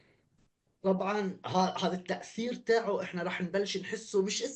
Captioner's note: speaking arabic